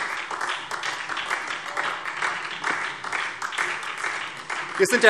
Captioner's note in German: Beifall SPD